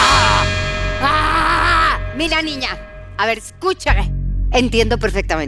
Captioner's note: GROANS IN 360º PERFORMER